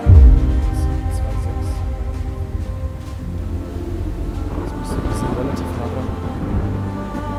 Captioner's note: thoughtful murmur